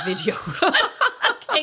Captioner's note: laughs